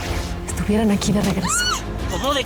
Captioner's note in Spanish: Gritos